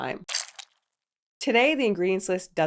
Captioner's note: squirting